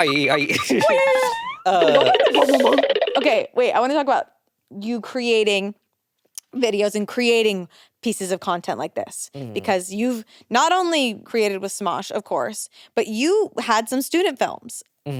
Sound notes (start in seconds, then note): 0.0 xylophone trilling; 0.0 trilling; 1.4 spring boinging; 2.1 drums thudding